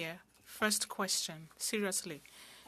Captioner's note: speaking french